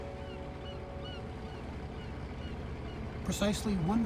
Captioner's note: bird cawing